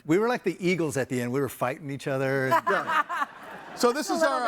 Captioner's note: laughs